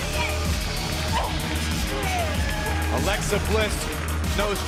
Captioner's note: cheers and applause